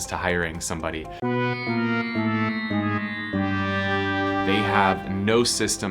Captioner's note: failure horn tooting